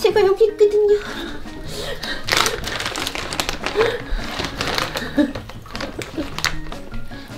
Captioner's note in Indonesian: tertawa